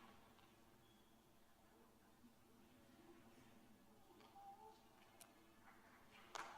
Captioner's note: applause